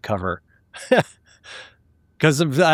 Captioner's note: laughing